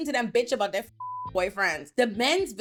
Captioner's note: beep